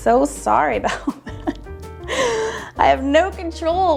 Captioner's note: laughs